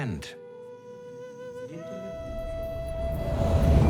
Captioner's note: speaks in Maya